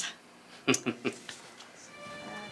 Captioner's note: Ender laughs